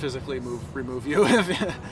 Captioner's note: laughing